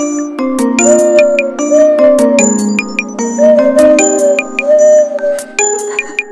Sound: whistle

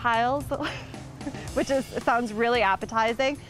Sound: laughing

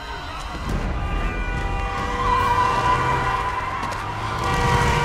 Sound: car honking

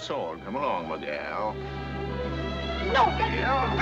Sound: none

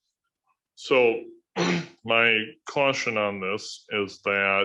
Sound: clears throat

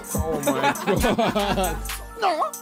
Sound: laughing

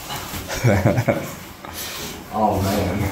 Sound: laughing

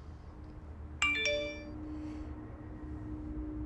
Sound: text alert

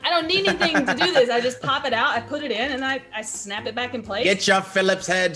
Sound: laugh

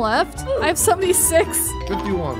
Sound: laughing

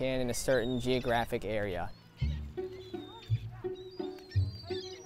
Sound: seagulls squawking; gentle music

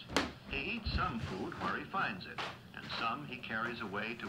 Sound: stomping on floor

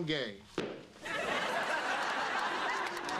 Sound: stomps foot

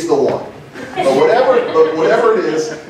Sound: laughter

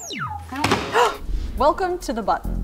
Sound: button beeps; button buzzes; gasps

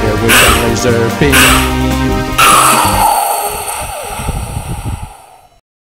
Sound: crocodile hissing

